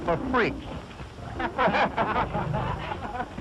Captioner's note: men laughing